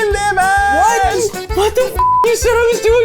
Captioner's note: beep